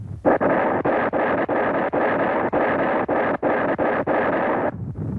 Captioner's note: explosions rumbling